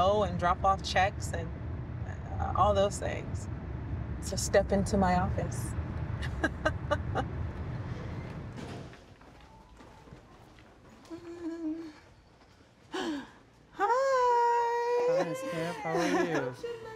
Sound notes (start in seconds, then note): 6.2 laughing; 11.0 humming; 12.9 gasping